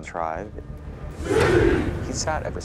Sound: people chanting

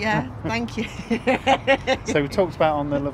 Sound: laughter

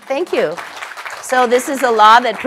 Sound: applause

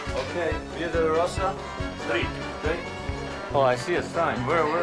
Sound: man speaking in foreign language

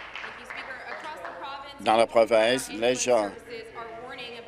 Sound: applause

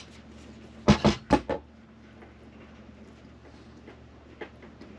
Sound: tool sounds

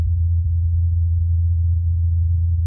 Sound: humming sound

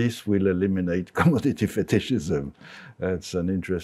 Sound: chuckles

